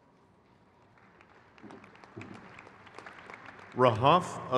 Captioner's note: crowd cheers